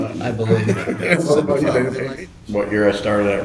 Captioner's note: laughing